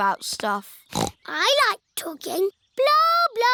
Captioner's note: snorts